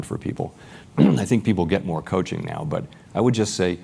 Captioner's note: cough